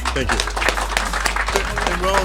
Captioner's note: applause